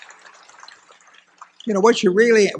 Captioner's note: applause